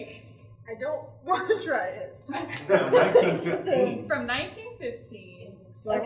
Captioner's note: laughter